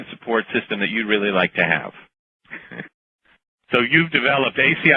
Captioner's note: chuckle